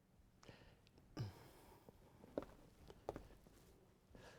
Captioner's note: footsteps